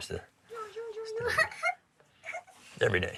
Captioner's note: child laughs